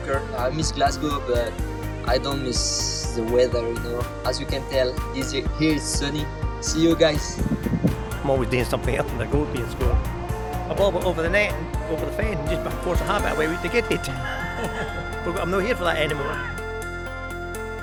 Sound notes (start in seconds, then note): 14.8 laughs